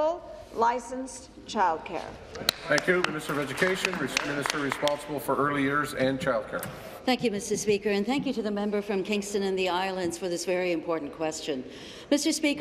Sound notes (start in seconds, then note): 4.9 applause